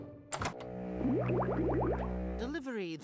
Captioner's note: gurgling